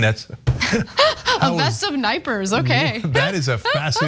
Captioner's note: laugh